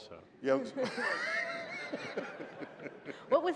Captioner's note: laughter